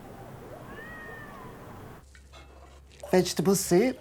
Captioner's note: cat meowing